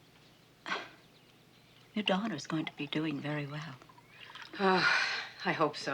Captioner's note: sigh